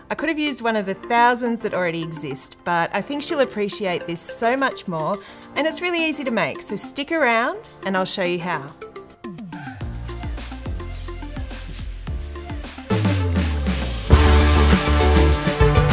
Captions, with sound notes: I could have used one of the thousands that already exist, but I think she'll appreciate this so much more, and it's really easy to make. So stick around, and I'll show you how. (upbeat music) (confetti rustling) (upbeat music)